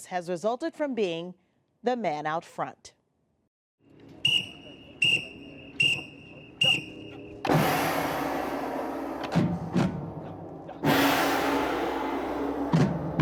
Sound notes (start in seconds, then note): 4.2 whistle blowing; 7.8 marching band music